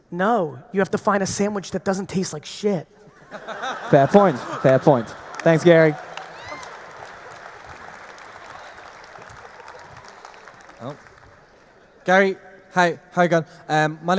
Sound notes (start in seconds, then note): 3.1 audience laughing; 6.1 audience applauding; 6.1 audience cheering